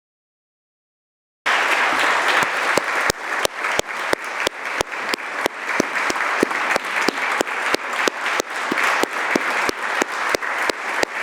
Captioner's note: applause